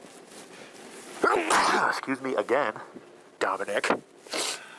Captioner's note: sneezing